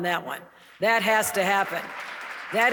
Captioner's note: audience clapping